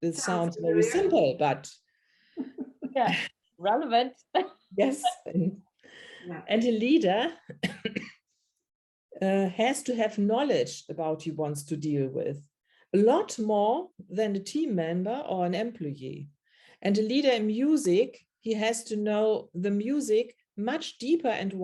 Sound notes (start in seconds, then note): 2.4 chuckles; 2.4 laughs; 7.5 coughs